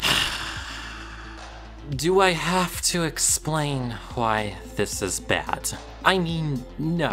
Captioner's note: exasperated noise